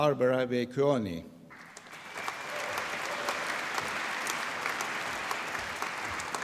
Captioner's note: applause